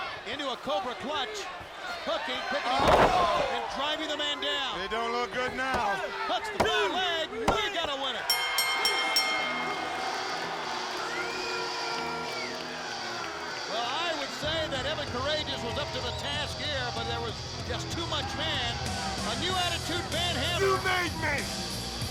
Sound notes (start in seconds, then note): 11.0 bell chimes